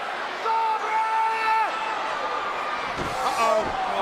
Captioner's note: wrestler yelling